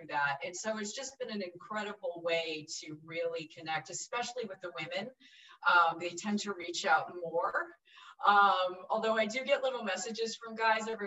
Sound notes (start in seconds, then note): none